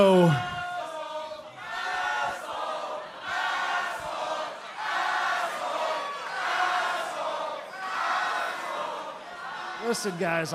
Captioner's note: crowd cheering